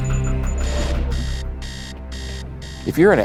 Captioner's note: alarm blaring